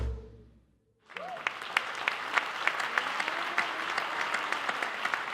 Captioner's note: applause